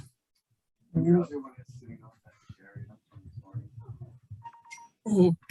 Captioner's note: voice muffling